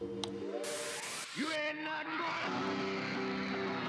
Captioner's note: audience screaming